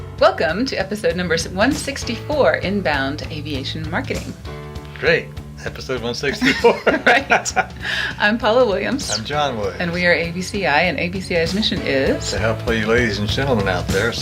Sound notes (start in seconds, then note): 6.3 laughs